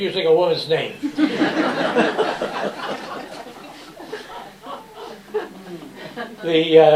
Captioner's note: laughter